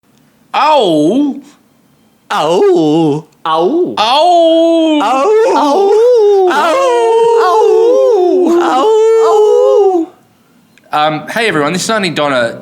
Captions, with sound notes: Ahwoo? AwoOo? Awoo! - Awoooooooooooo [Multiple 'Awoo's] Um hey everyone, this is Aunty Donna